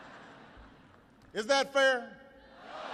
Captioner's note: laughter